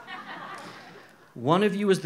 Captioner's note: audience chuckles